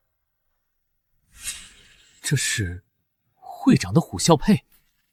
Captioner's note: hiss